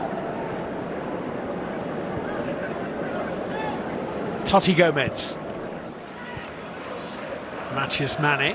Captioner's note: applause; audience oohs